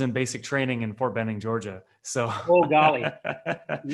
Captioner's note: laughs